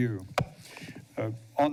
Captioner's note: thud